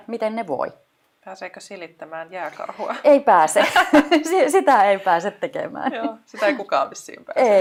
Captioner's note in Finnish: Nauraa